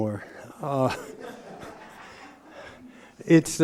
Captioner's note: laughter